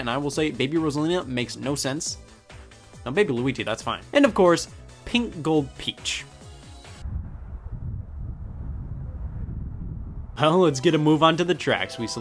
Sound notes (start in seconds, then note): 7.0 wind blowing